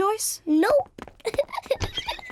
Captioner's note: chuckles and oinks; giggles